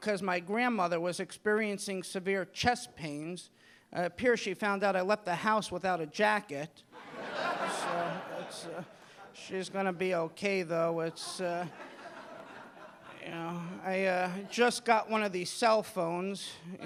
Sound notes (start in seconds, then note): 6.9 audience laughing